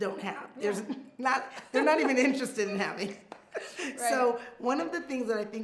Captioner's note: laughs